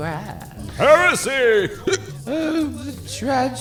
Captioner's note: hiccup